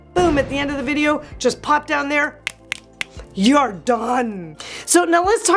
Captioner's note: snapping